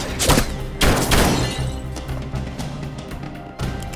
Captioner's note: gunshots